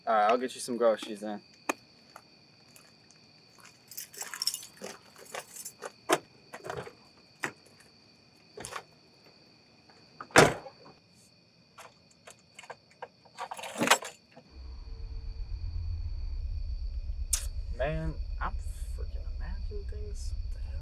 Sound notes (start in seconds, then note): 3.6 keys jingling; 6.0 car unlocks; 14.6 creepy music